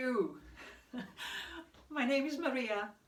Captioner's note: chuckles